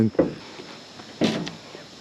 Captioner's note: thud